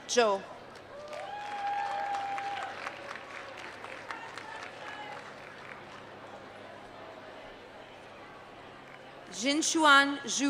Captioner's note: applause